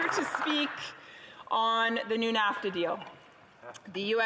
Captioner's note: some applause